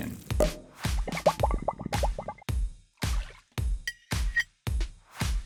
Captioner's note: bubbles popping; upbeat percussive music